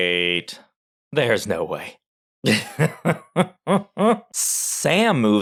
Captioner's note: laugh